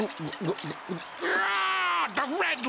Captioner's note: yells